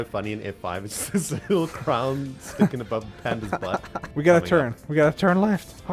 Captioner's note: laughs